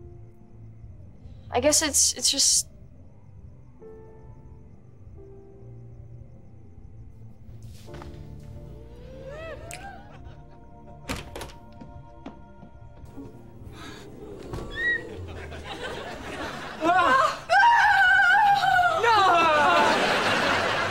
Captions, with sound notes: I guess it’s, it’s just... [gasping] [squeaking] - Ah! - Oh! - Oh! - No!